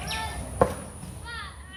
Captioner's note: sound of kids playing